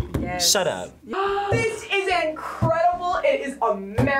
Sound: gasps

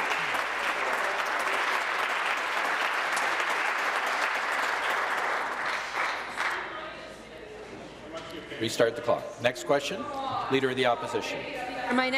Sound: applause

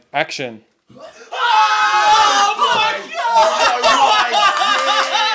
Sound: yell and scream

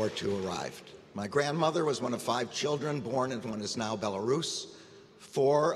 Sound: applause

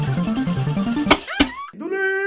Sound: click

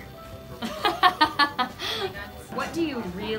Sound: laughs

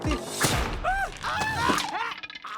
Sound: exclaims, screams; grunts, gurgles

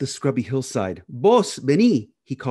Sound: speaking in Spanish

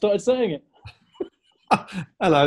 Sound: laughing

